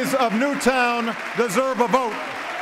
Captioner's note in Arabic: تصفيق